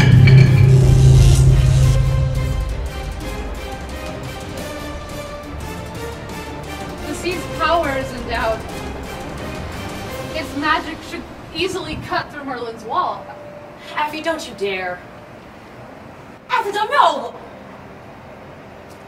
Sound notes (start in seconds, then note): 0.9 zapping